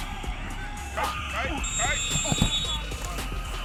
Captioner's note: whistle blowing